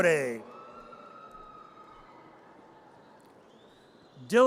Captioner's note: audience cheers